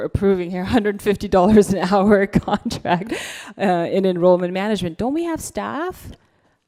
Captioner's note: laughs